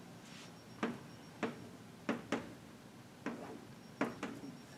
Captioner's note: chalk tapping